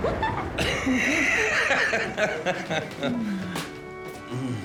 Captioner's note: people laughing; soft violin music